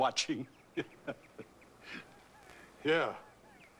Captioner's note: chuckling